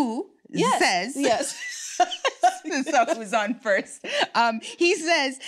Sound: laughs

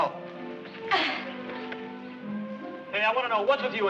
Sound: Gwyneth grunts

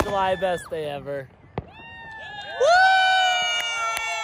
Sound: all shouting

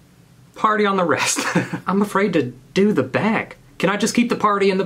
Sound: laughing

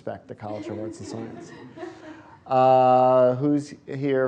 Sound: laughter

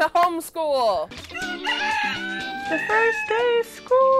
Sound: rooster crowing

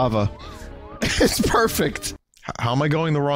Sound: laughing

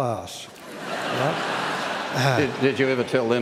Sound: laughter

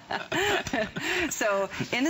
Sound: laughter

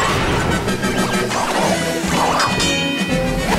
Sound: dinging

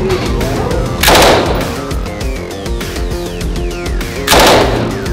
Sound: gun firing

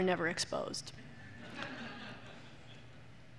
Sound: laughter

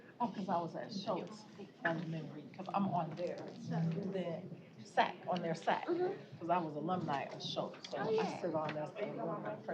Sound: off-mic chatter

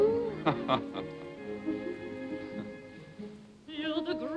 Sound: chuckles

